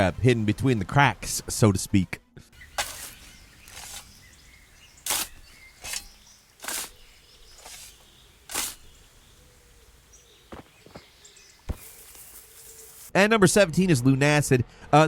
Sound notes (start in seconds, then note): 2.5 birds chirping; 2.6 shovel scraping